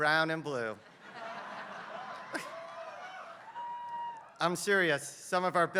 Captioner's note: laugh